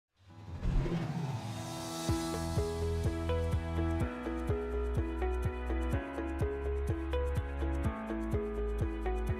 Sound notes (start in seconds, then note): 0.6 air whooshing; 2.0 upbeat music